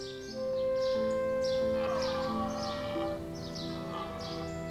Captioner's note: deer roars